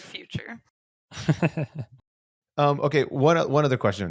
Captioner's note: chuckling